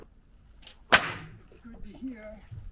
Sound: nail gun shooting

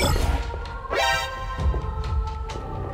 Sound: exclmation point sound effect from Metal Gear solid

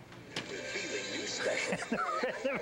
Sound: radio begins playing; laughing

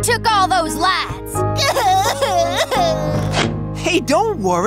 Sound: sobbing

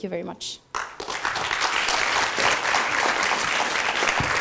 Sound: applause

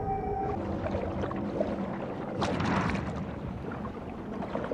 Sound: technology clicking; water swooshing

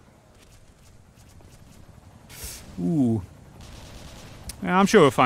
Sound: inhalation of pain

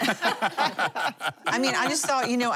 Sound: laughing

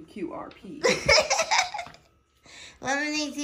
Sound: laughs

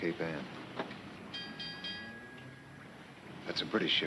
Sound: bell ringing

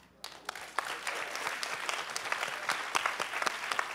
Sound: applause

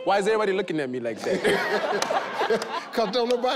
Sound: Steve laughs

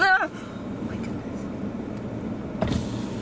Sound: whispers

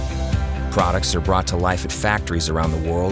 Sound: voiceover

